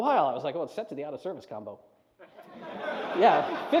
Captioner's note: laughter